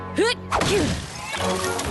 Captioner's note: crash